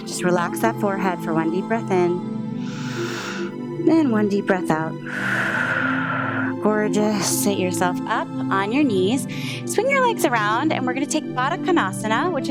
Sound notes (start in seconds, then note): 2.6 inhales; 5.0 exhales